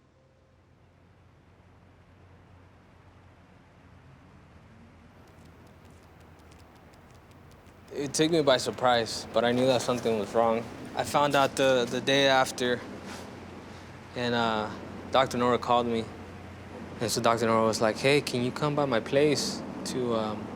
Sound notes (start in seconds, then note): 0.4 city ambience; 5.1 small dog walking